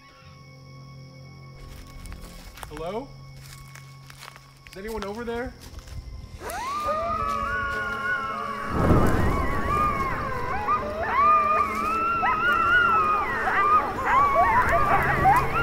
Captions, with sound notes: Hello? Is anyone over there? [Coyotes howling] [Fire igniting]